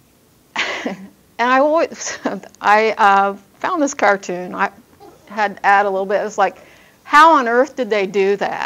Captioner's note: laughs